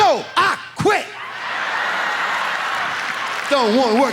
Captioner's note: audience laughs